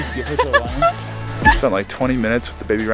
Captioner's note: laughing happily